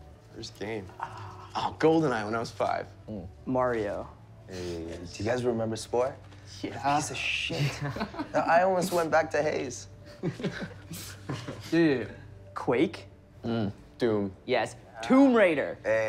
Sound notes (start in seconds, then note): 1.1 light electronic music; 10.1 laughing